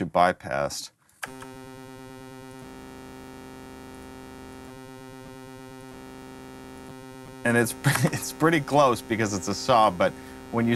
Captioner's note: digital tones